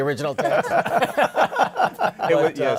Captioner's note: laughter